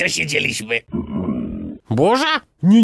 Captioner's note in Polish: burczenie